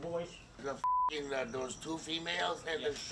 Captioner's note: beep